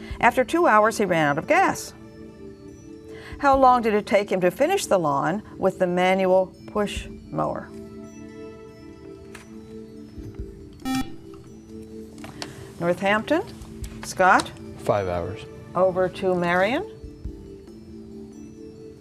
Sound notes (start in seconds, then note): 10.8 beeping